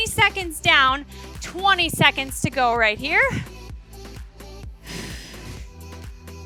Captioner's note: exhales